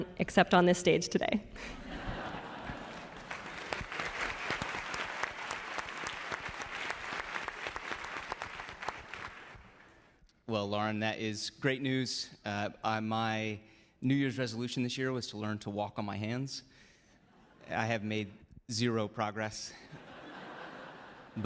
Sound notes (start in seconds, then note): 4.4 applause